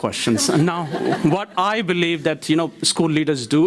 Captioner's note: crowd laughs